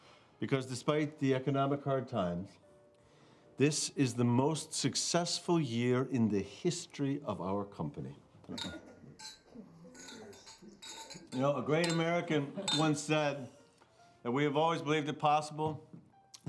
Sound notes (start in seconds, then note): 8.5 glasses clinking